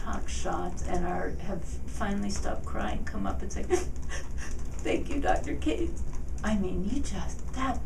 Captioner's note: sniffles